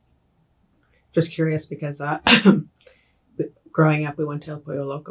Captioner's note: coughs